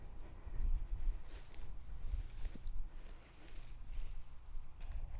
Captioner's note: dirt scrapes